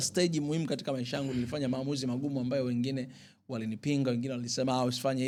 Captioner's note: clearing throat